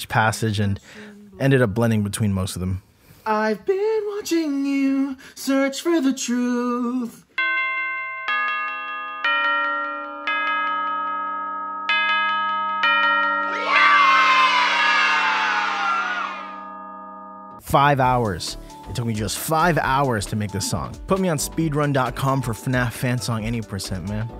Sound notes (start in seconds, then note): 13.4 children shout "yay"